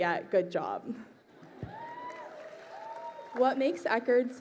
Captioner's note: crowd cheering